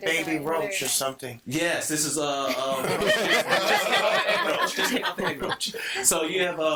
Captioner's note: all laughing